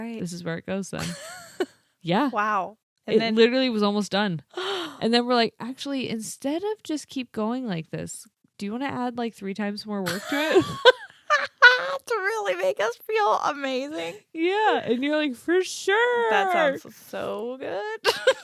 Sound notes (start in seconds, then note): 4.6 gasps; 10.1 laughing